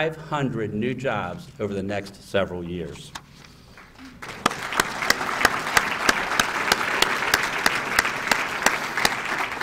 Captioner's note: applause